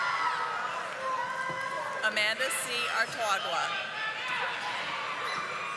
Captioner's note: audience applauding